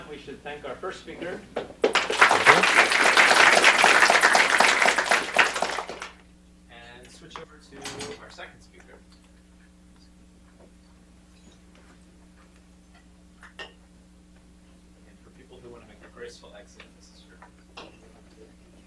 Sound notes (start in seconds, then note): 1.8 applause